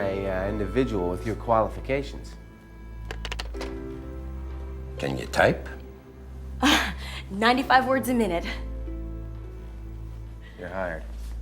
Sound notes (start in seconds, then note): 3.0 keys clack; 6.8 exhales sharply